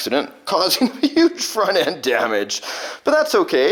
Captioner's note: laughing